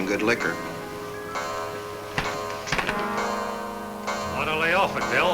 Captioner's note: clock chimes